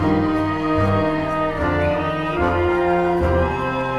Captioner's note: crowd cheering